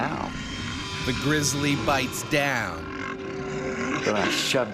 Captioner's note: voiceover